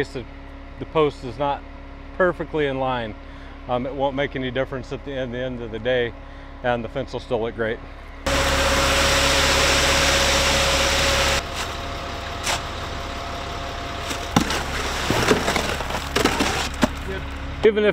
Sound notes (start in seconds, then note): 8.3 machine grinding; 14.0 shovel shuffling; 14.0 shovel clanging